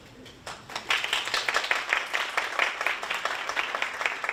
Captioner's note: audience applauding